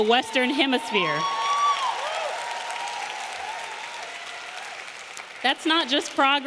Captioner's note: audience cheering; audience applauding